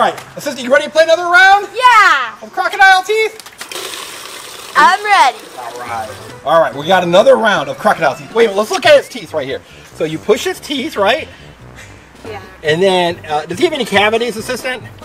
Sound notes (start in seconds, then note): 3.2 water splashing